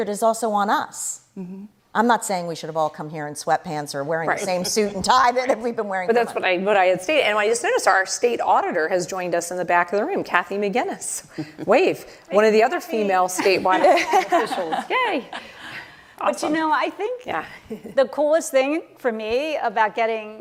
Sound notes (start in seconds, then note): 14.9 chuckle